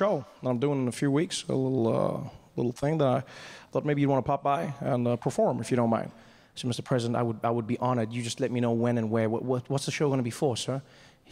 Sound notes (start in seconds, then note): none